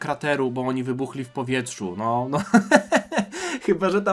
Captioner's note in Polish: śmiech